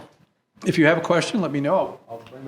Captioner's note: none